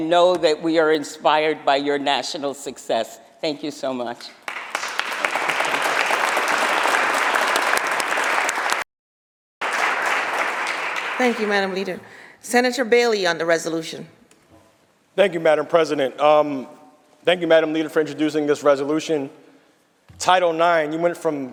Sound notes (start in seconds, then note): 8.5 applause